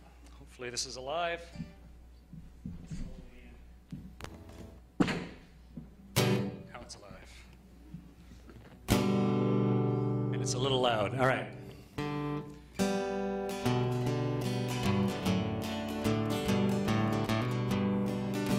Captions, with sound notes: Hopefully this is alive... (speaker pops) (strums guitar) Now it's alive. And it's a little loud. All right. (acoustic folk music)